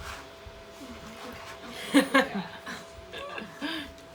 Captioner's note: laughing